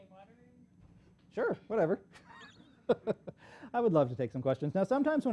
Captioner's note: laughs